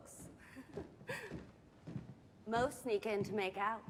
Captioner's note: giggles